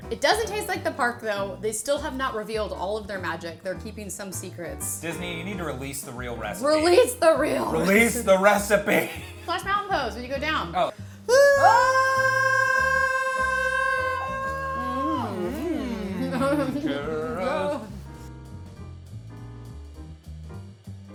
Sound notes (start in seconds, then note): 8.9 laughs; 11.2 screams; 18.4 upbeat music